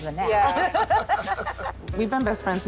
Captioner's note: laughs